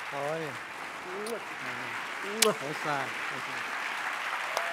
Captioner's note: kiss